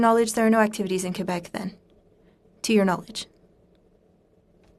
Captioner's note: speaking French